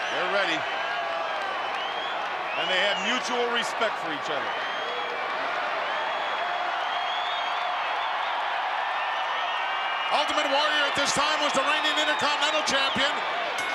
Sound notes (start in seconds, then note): 5.7 crowd cheering